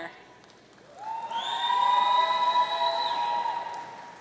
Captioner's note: audience cheering